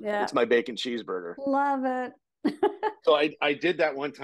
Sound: chuckling

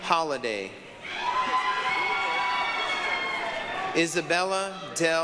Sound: applause, cheering

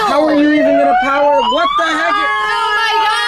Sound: sirens blaring

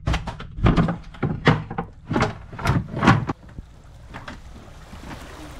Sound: wood divider bangs

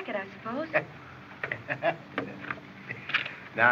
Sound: chuckling

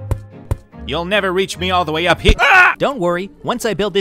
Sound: yells

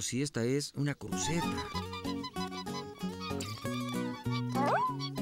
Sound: squeaking

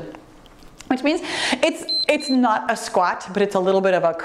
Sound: timer beeps

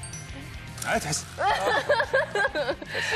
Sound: rejecting, Laughing

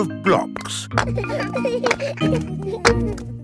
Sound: children laughing

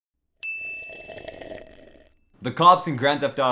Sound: slurping

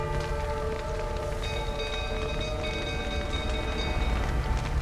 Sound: flames crackling; alarm bell ringing

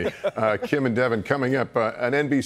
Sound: laughter

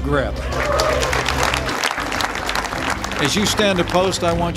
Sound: applause

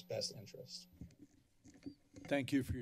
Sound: silence

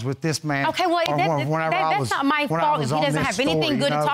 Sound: stutters

